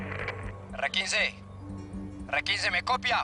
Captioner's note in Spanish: Por el walkie-talkie